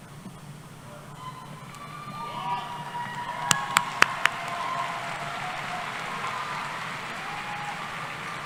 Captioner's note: cheering